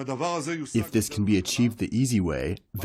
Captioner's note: through translator